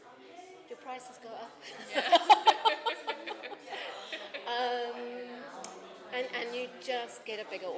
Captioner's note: laughs